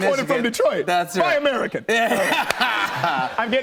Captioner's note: laughter